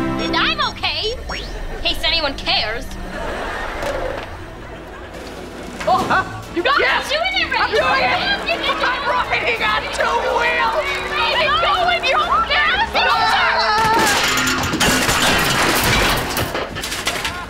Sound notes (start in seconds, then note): 10.9 yelling; 12.5 screaming